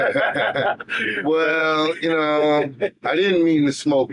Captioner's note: laughing